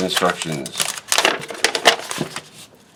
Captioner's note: paper crinkles